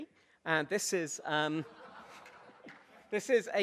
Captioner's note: audience laughs